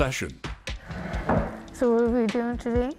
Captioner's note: wheelchair thumps